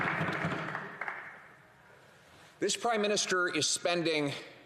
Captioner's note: some Applause